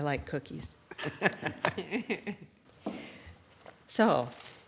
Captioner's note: attendees laughing